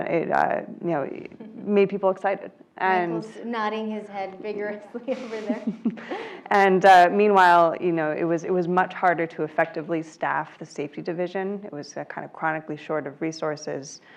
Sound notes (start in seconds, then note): 4.8 laugh